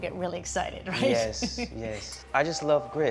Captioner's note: laughs